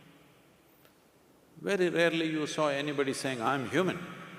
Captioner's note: none